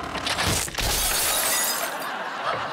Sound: crashing

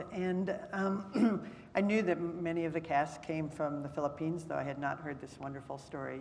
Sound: cough

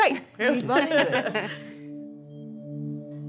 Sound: laughing

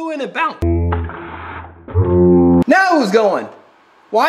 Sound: slow motion audio

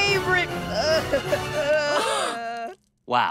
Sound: sobbing

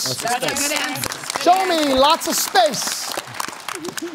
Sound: applause

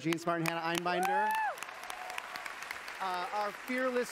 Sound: cheering

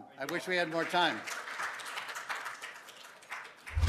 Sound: applause

